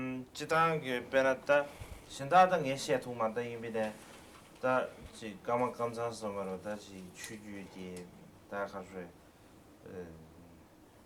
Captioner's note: non-english speech